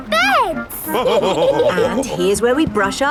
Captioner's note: all laughing